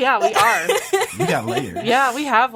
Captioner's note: laughs